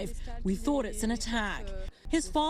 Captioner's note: speaking foreign language